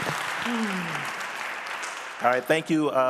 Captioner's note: audience applauding